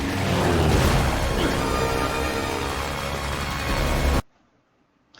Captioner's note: plane engine; thud